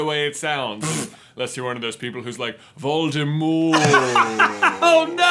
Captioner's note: dying laughing